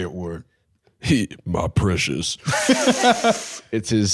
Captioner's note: deep voice; long inhale